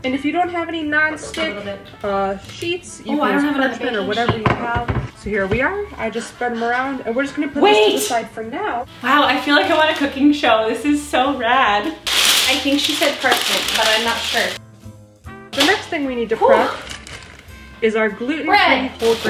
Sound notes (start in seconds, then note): 12.0 paper rustling